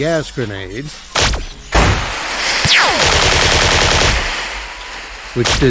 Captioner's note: gas grenade explodes, gas hisses slowly out